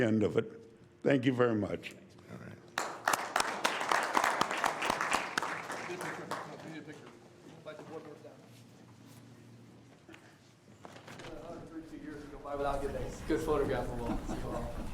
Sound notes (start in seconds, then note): 9.3 applause